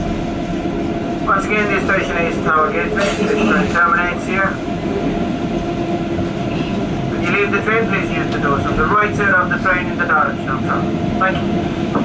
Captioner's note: train Operator Announcement